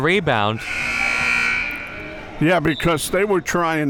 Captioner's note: buzzer sounding